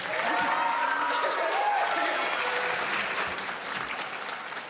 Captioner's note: audience cheering